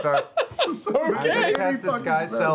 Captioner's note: laughs